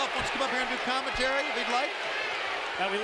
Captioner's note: crowd chatter